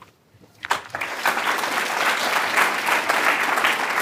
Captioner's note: applause